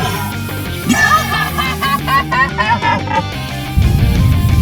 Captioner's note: retarded indian midget laughing at a chad